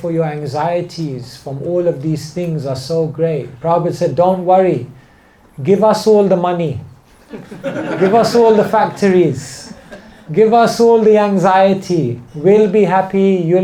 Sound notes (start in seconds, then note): 7.2 laughter